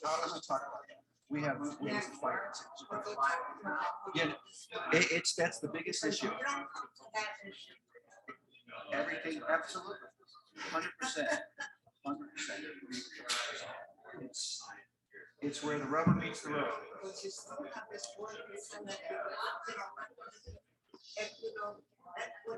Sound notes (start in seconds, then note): 2.9 people chattering indistinctly; 6.9 people chattering indistinctly; 18.2 people chattering indistinctly